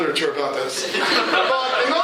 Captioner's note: laughter